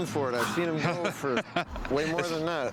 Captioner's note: laughs